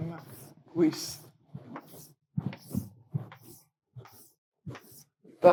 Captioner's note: chalk swooshes